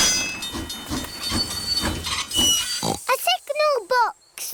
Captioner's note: tinging; oinks